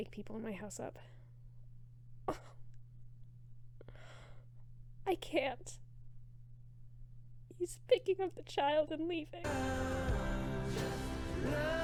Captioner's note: laughs